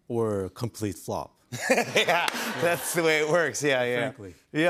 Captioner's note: laughs